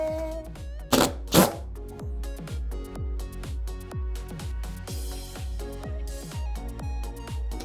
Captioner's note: upbeat music; drill grinds